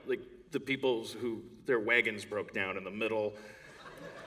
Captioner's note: laughter